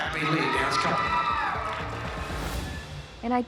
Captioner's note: cheering